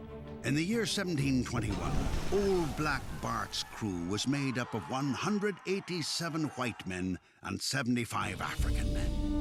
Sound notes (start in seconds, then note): 6.6 yelling